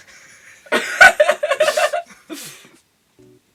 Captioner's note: goblin children laughter